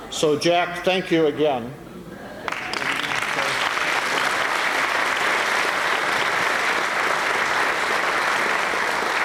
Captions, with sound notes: So, Jack, thank you again. [APPLAUSE]